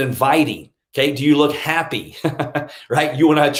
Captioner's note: laughs